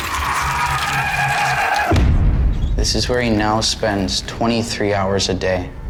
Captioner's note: none